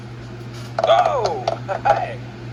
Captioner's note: Martin cheers